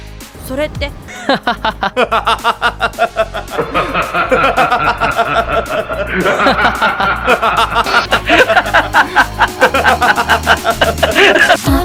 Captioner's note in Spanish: Risas